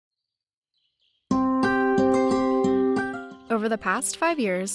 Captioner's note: birds chirping/music